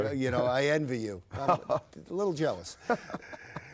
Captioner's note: laughs